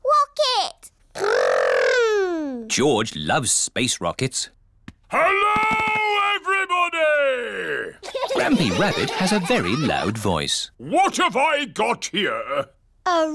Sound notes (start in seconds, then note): 5.2 shouts; 8.0 laughter